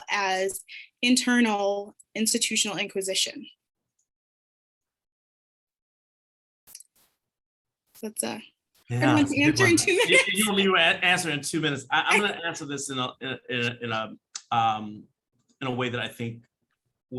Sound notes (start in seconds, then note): 9.0 laughs; 13.0 chuckles